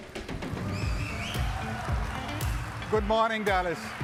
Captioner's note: upbeat music; audience applauding